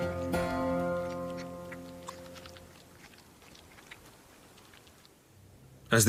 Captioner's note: chewing